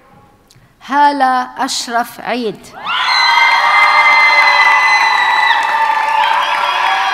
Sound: audience cheers and applauds

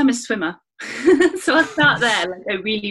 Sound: laughter

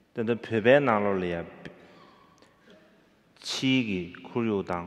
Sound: speaking in foreign language

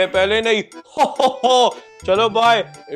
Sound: Santa laughing

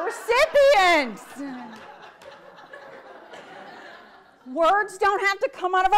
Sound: audience laughs

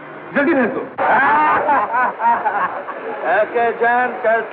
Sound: laughing

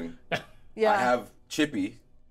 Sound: speaker chuckles

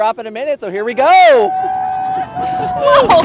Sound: screams

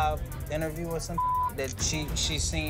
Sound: beep

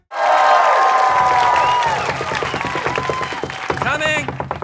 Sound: cheering; knocking

